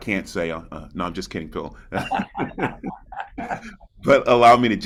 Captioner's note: participants laugh